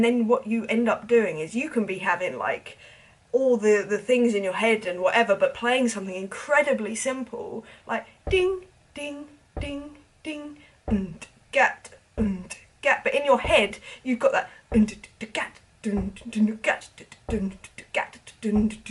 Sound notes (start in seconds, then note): 10.8 mimics drumbeat; 15.8 mimics more complex drumbeat